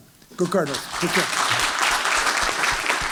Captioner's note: applause